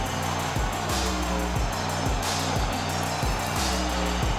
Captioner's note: crowd cheering